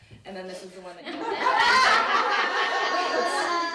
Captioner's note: laughter